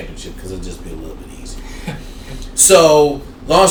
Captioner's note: chuckling